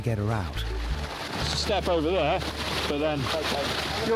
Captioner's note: water splashing